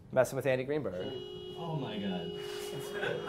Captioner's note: horn honking